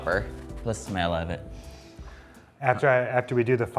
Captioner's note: sniffs